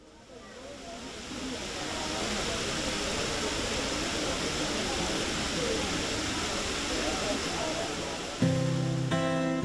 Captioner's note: background chatter